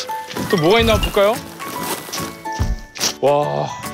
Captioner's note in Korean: 신난 발걸음